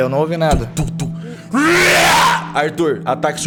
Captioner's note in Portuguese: rugido